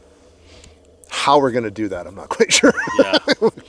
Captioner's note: laughs